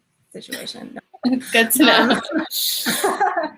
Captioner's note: chuckling